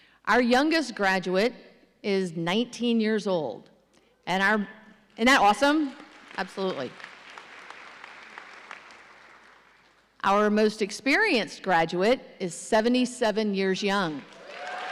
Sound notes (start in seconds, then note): 6.0 audience applauding; 14.3 audience cheering